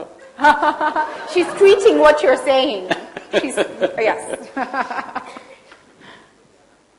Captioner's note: laughter; Sadhguru laughs; laughs